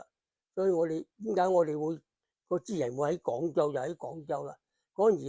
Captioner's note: Cantonese